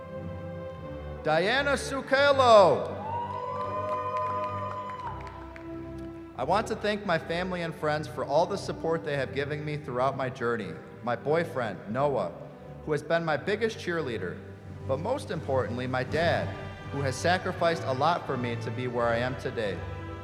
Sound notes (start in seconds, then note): 2.8 cheering